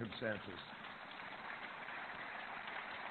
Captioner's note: applause